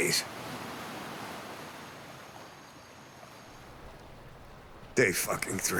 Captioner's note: waves crash